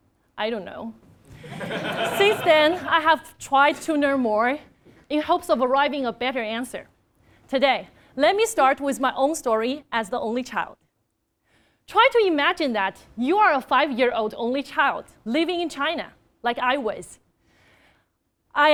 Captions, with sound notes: I don't know. >> [LAUGH] >> Since then, I have tried to learn more in hopes of arriving at a better answer. Today, let me start with my own story as the only child. Try to imagine, that you are a five year old only child, living in China, like I was.